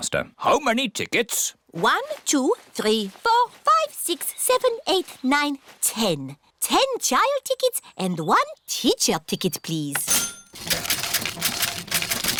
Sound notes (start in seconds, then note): 9.9 cash register dings